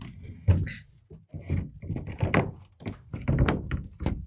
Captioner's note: boards clanking